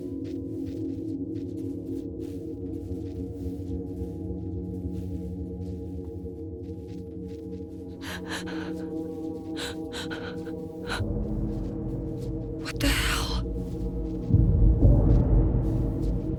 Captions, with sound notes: (eerie music) (Sarah gasps) What the hell? (eerie music)